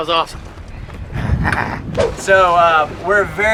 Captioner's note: laughs